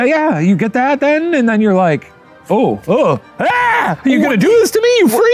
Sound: screams

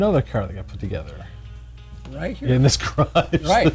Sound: laughs

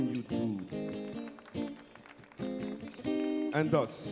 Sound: crowd applauds

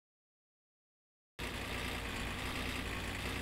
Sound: engine noise

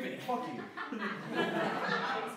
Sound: laughter

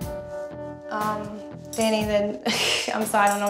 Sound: laughs

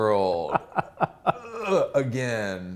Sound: laughs

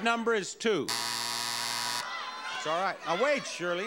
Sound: buzzer sounds

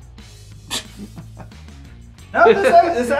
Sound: laughter

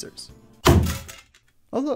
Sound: thunk

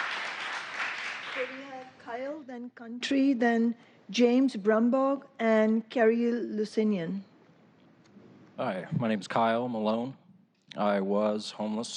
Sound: applause

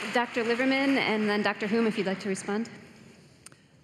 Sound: cheering

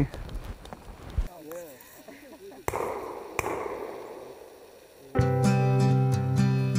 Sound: gun shots

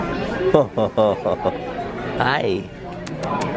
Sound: laughs

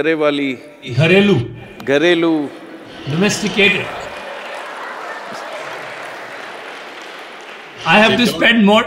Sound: laughter/Applause

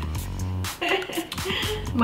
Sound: giggles

